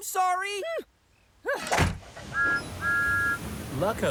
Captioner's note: whistle toots